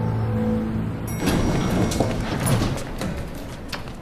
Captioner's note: elevator bell rings